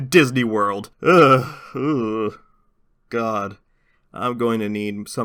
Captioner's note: disgruntled Noises